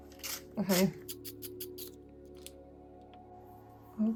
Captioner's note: sharpening noise